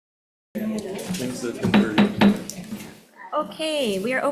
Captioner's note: group chattering; gavel banging